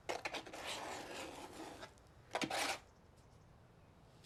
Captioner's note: spatula scraping